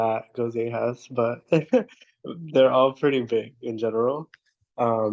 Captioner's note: laughs